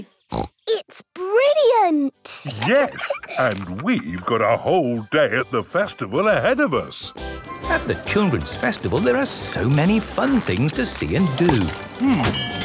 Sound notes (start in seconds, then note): 2.4 laughs; 7.1 festival buzz and music